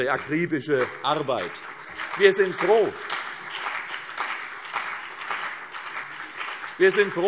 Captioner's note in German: Beifall CDU und BÜNDNIS 90/DIE GRÜNEN